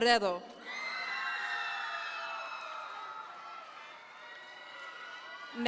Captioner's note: audience members cheer